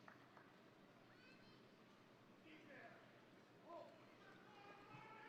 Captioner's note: indistinct crowd chattering